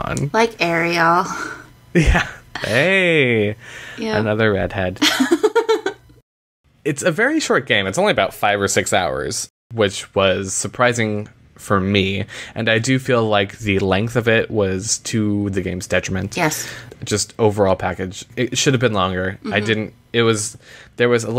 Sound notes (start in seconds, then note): 5.0 laughter